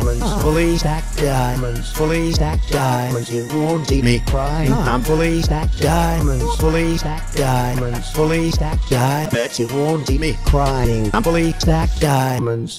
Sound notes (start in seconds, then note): 5.9 hah